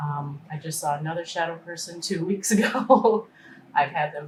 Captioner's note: laughing